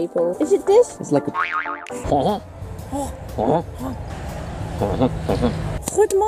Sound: boing

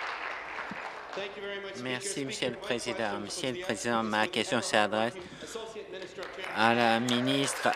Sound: applause

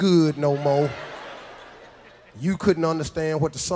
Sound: audience laughs

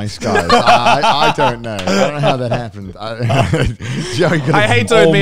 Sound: all laughing

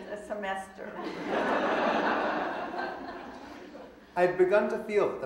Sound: audience laughing

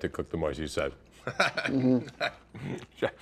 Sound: chuckles

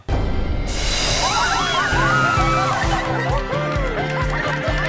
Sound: cheering

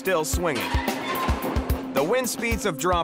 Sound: metal clanging

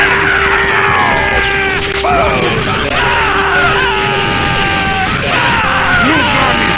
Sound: screams

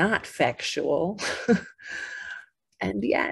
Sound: chuckles

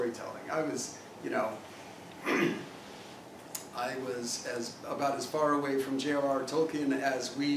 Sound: cough

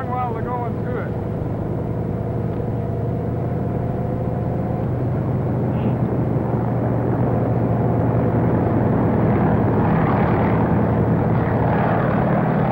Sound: rotor blades whirling

